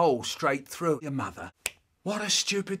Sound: schlap

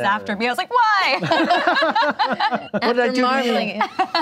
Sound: laughing

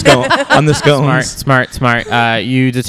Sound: laughter

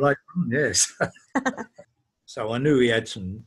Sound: laughs

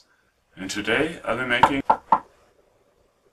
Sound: knocking on the door

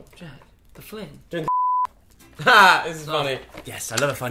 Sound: laughs

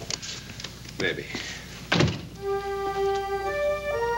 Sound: door thudding; worrisome music

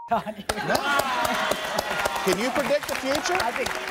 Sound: applause

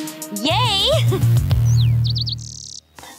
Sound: birds chirping

